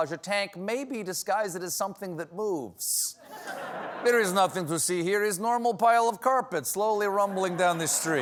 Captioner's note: russian